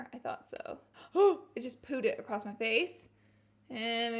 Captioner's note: gasp